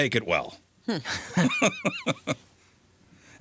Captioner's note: laughing